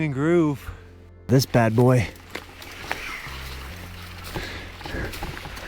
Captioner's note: heavy breathing